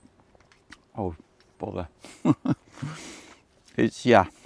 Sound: laughs

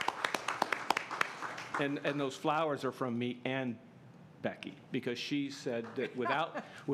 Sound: applause

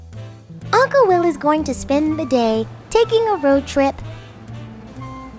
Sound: traffic Sounds

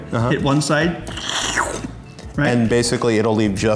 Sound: slurping

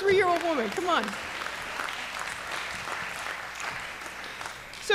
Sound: applause

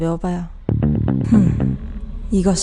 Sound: hmm

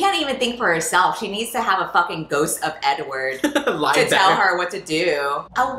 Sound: laughs

